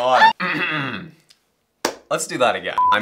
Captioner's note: clears throat